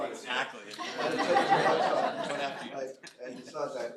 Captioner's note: laughter